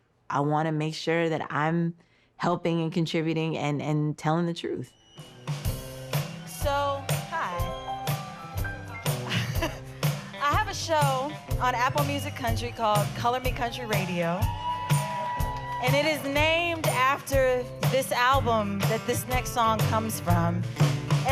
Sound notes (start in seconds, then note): 9.2 laughs; 14.6 cheers and applause